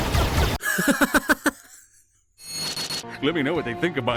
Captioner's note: laughs in Australian